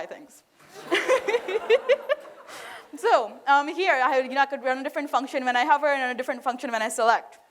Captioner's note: laughter